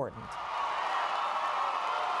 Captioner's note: cheering and applause